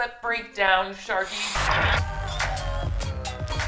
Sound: static crackling; slow music

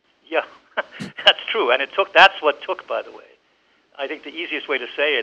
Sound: laughs

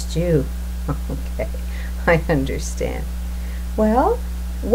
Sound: chuckles

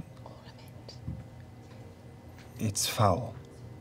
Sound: whispers

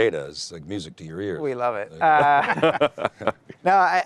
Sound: panel members laugh

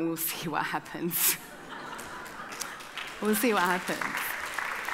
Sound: audience laughing

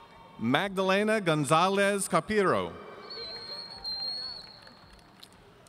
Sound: audience cheering

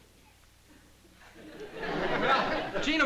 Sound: laughter

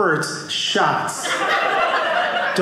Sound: audience laughing

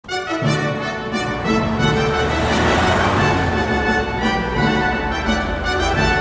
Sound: classical music; traffic rumbling

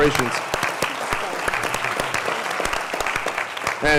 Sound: applause

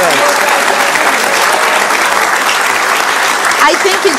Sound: audience claps

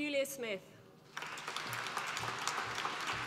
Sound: applause

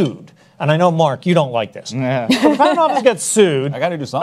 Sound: chuckles

